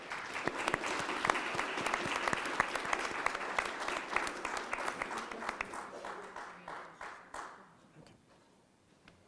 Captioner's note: applause